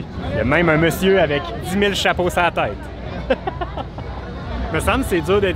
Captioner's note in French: Rire